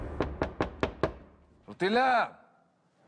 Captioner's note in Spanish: Sonido al tocar la puerta